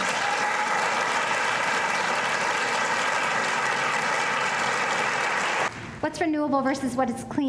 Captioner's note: applause